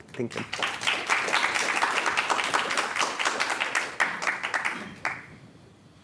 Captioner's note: applause